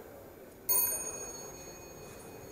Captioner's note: elevator rings